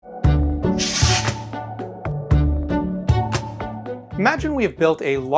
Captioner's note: light upbeat music; logo whooshing